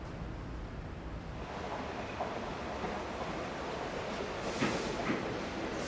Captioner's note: subway train approaching